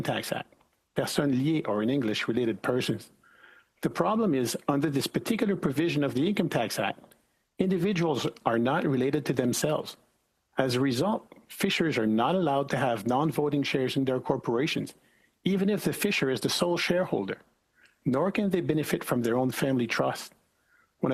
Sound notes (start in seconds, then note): 2.7 speaking French